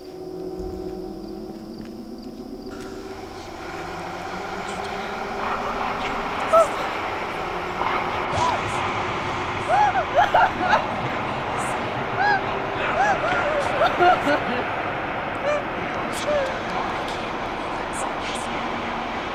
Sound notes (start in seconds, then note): 3.1 suspenseful music; 3.1 whispering; 6.7 whimpers; 10.3 crying